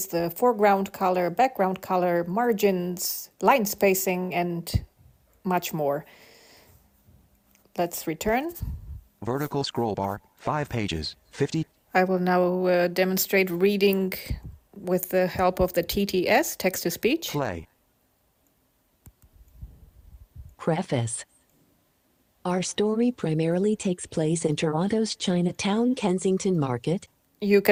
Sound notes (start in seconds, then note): 20.7 Synthetic voice